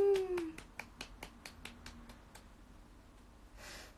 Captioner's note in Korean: 짝짝짝짝짝짝짝